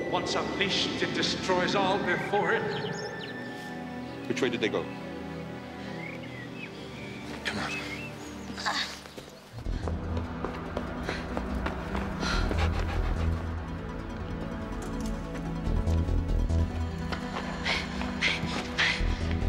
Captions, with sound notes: Once unleashed, it destroys all before it. - Which way did they go? Come on. (Aruna panting)